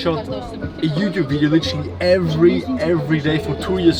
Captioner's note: speaks faintly